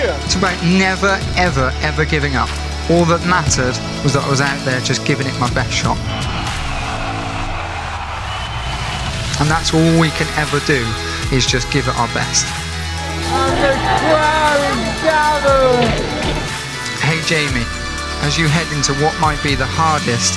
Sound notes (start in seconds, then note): 6.8 cheering